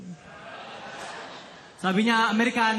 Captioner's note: audience cheers